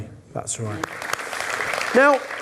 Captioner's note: audience applause